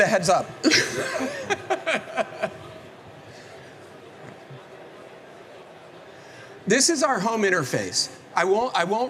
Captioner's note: laughs